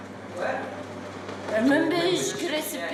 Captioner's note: man speaks faintly